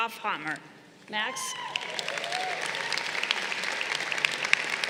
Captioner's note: crowd applauding